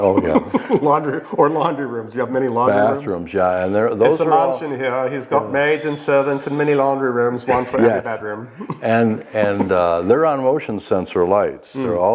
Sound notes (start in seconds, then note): 4.3 posh accent